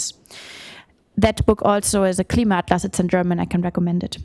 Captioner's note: non-english